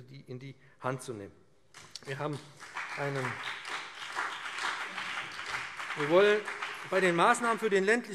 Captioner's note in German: Beifall BÜNDNIS 90/DIE GRÜNEN und CDU